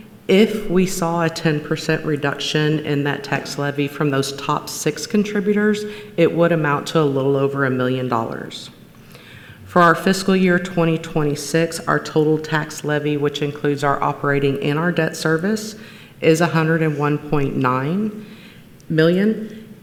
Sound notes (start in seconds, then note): none